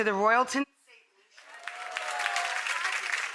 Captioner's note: audience applauds